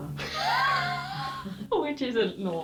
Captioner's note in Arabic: يضحك